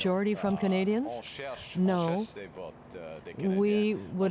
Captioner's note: speaking French